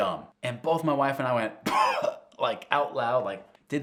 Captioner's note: speaker coughing